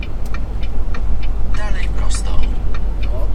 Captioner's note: GPS talking